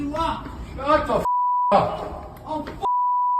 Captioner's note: beep